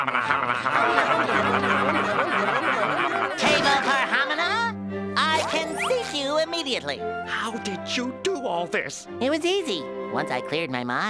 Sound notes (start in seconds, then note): 6.8 whispering